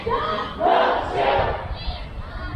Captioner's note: crowd